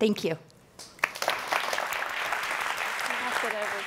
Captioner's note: audience applauding